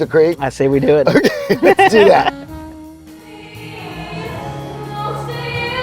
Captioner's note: laughing